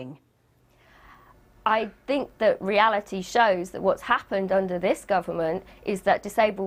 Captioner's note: exhales